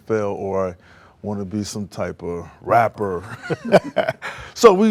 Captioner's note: laughs